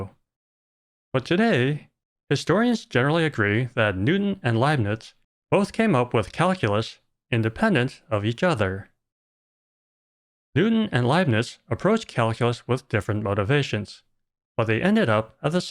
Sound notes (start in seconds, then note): none